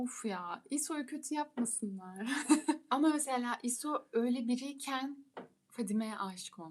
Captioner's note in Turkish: kahkaha